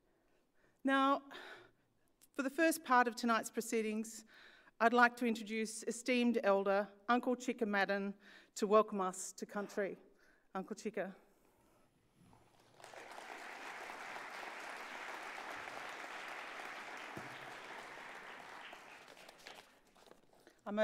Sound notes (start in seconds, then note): 15.5 applause